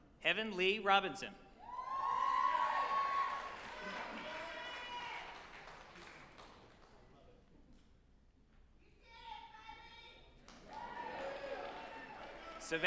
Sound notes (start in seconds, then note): 1.7 group applauding and cheering